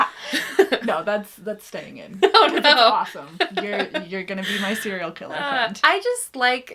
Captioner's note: laughing; laughing